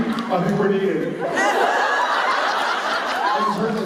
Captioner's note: laughter